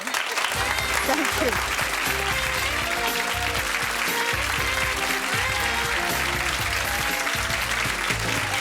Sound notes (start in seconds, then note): 0.8 audience cheering